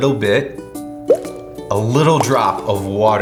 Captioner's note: water drops